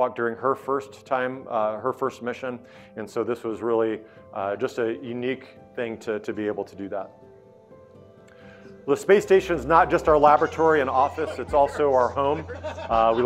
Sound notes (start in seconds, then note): 9.3 astronauts laughing